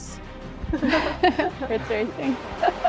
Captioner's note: group laughs nervously